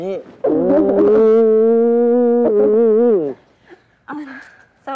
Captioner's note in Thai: เสียงมีความสุข